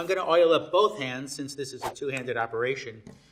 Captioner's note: air whooshing